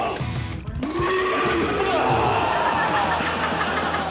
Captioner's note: mimics vomit; man grunts; all laughing